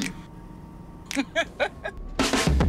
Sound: laughs

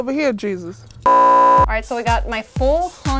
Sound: beep

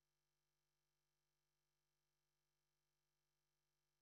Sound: none

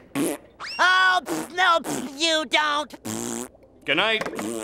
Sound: raspberry

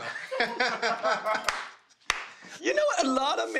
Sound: laughter

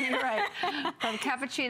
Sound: laughter

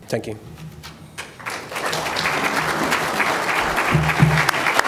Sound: applause

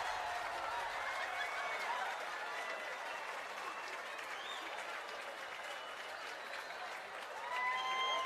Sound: applause and Cheering

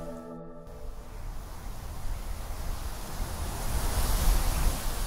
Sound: wind blowing

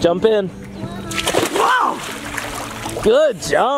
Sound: water splashes

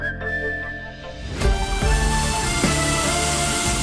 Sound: crackers bursting

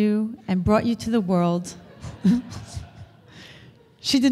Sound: audience laughter; laughs

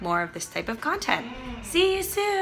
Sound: door creaking

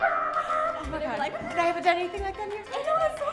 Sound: incoherent celebration

